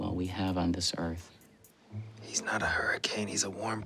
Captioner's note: whispering